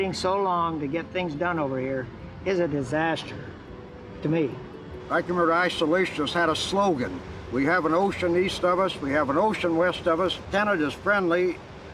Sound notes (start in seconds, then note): none